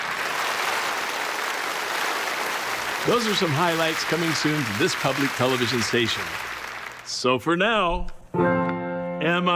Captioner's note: applause